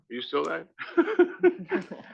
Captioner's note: laugh